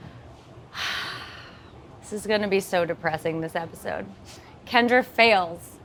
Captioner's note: sighs